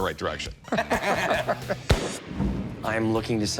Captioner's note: laughter